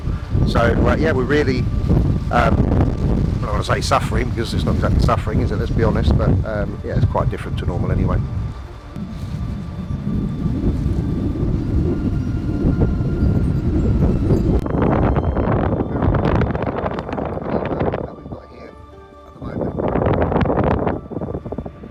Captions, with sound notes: So yeah, we really, don't wanna say suffering, 'cause this is not exactly suffering let's be honest, but yea it's quite different to normal anyway. (eerie music) (wind blows) (very muffled voice)